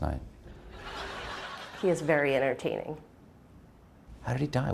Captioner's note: laughter